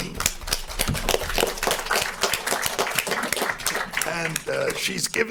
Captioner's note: panel and audience applauding